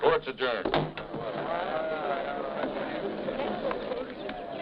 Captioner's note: crowd chatting